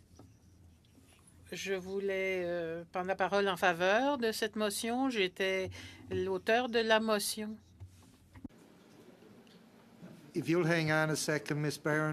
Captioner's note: speaking French